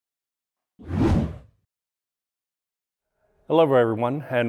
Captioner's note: air whooshing